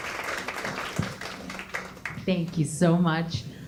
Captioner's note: applause